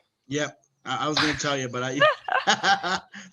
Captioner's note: laughs